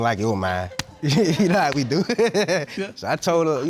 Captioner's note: laughs